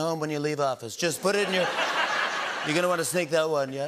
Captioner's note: laughter